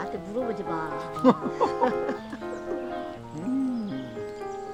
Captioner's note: both laughing